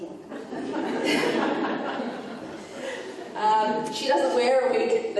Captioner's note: audience laughing